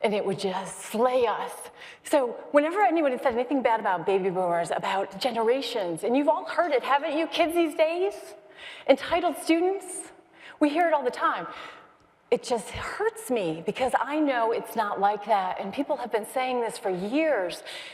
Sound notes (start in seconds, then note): none